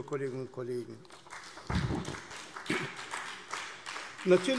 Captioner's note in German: Beifall CDU und BÜNDNIS 90/DIE GRÜNEN